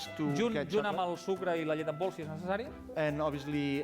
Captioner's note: non-english speech